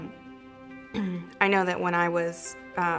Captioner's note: clears throat